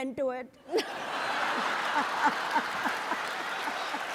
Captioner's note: audience laughs